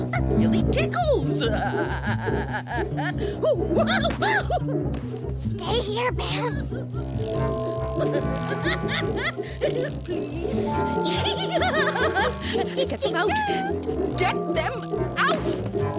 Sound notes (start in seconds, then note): 1.4 laughs uncontrollably; 3.4 laughs hysterically; 8.9 laughs hysterically; 10.7 laughs uncontrollably